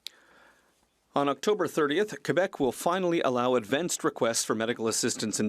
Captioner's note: speaking French